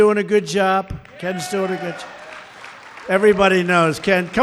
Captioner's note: applause